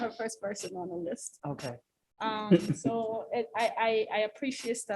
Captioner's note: laughter